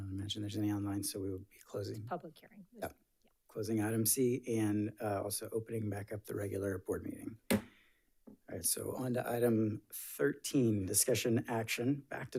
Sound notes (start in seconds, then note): 7.4 gavel thumping